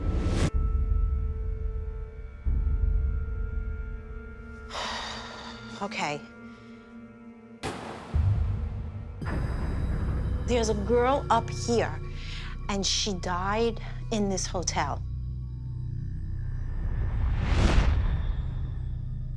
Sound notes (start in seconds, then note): 4.7 sighs; 7.6 loud bang